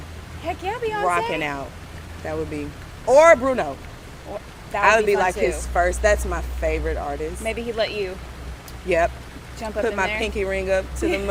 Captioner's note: laughs